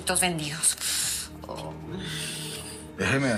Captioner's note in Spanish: Quejidos